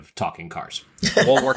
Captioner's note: laughing